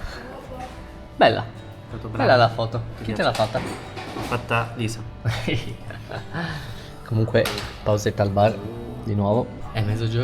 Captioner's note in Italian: risate